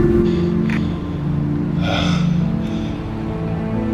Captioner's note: gasping